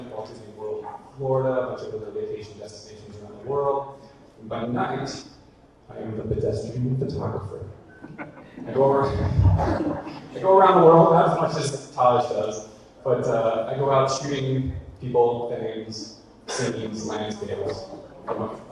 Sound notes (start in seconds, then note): 8.0 audience laughter